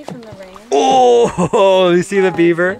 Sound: grunting

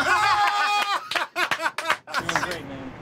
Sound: laughter

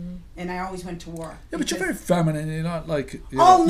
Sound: voiceover

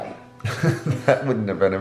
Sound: laughs

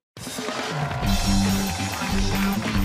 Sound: cheers and applause

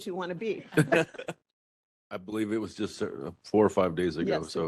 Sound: laughing

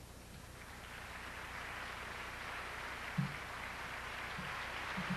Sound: audience applauds

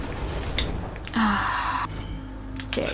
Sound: exhales

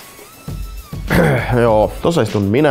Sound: cough

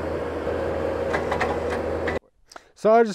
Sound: auger drill clanks

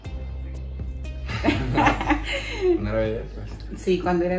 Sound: laughter

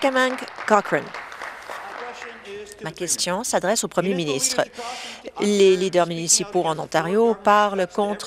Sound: applause

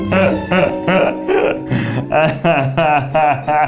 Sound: bell ringing; laughing; guffawing

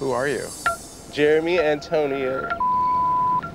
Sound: audio beeps

